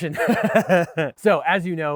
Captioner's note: laughs